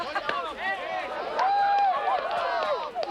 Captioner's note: clapping, cheering